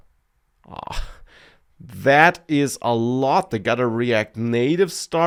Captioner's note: laughs